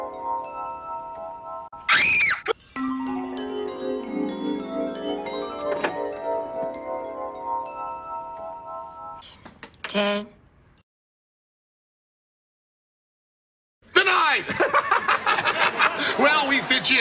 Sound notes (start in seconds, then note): 0.0 magical music; 1.8 high pitched scream